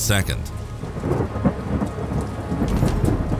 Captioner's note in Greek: βροντή